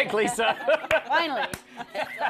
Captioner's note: laughs